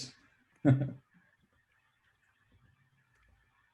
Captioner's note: laughs